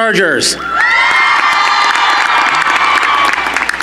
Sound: cheering

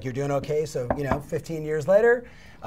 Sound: knocking

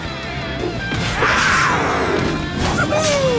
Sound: roaring

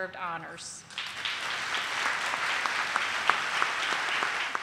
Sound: audience applauding

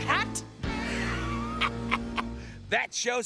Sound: laughing

